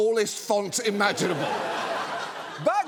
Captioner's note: audience laughs